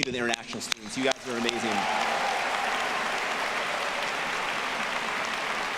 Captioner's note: audience applauding